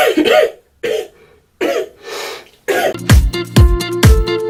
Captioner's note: coughing break